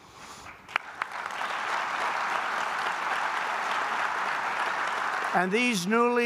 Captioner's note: applause